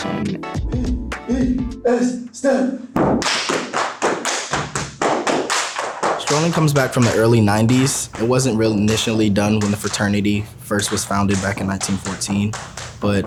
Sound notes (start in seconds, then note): 3.0 feet stomping; 3.2 hands clapping